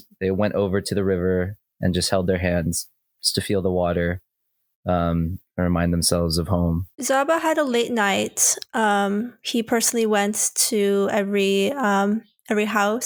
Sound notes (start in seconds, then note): none